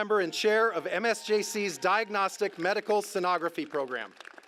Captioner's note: applause